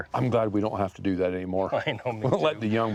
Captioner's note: laughs